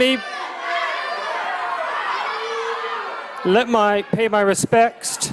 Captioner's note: protestors shouting